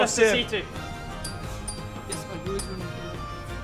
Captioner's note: clink clink clink